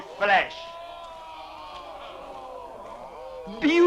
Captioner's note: men exclaiming